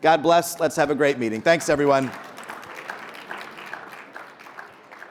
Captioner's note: people applauding